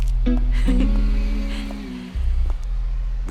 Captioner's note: laughter